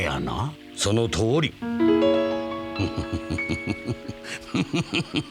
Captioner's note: heh heh heh…